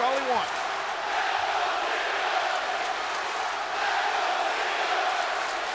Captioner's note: audience chanting and applauding